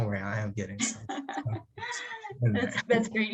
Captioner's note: laughs